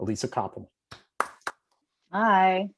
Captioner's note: applause